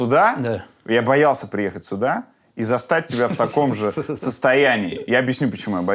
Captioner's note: laughs